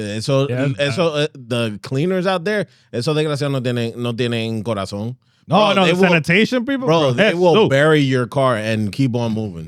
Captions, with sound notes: The cleaners out there, (Speaking In Foreign Language) No, no, sanitation people. Bro, they will bury your car and keep on moving.